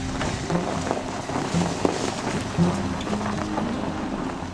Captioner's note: tires crushing snow